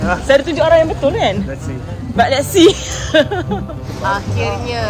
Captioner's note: laugh